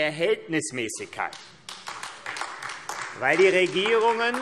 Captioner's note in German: Beifall AfD